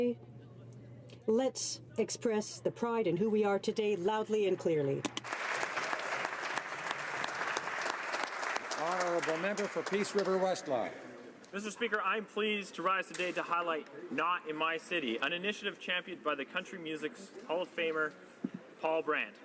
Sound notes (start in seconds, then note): 8.8 some Applause